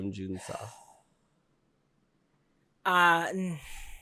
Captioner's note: sigh